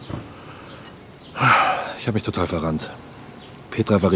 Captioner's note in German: ausatmend